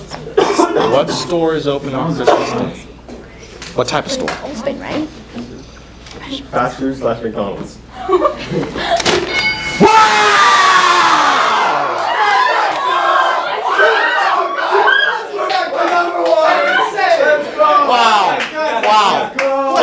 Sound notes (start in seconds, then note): 7.9 giggles; 8.8 paper slaps; 9.2 ding!; 10.5 green team cheers; 11.7 cheering